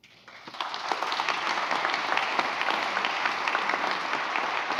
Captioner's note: audience applauds